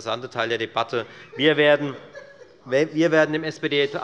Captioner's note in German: Lachen